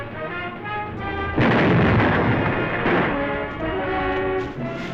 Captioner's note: explosions